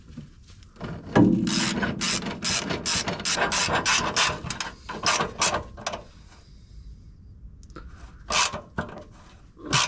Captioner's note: drilling